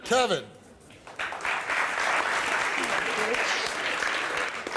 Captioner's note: audience clapping